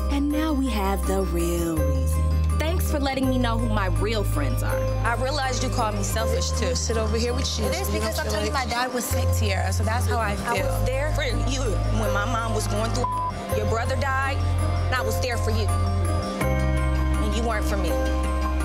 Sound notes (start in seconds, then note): 12.9 beep